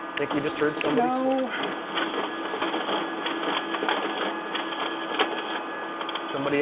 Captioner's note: mechanical whirring